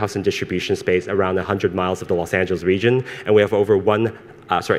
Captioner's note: none